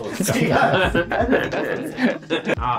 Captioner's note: laughing